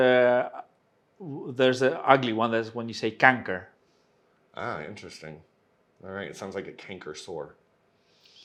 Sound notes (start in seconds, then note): 3.8 speaks in Dutch